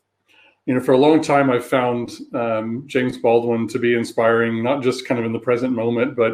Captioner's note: erm